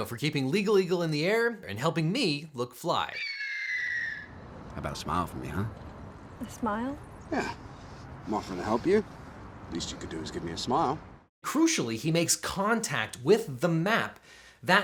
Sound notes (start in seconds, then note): 3.1 eagle screeching